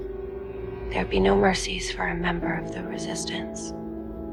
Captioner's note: voiceover